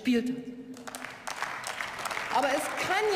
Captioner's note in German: Beifall